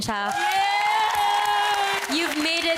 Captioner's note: cheering, applause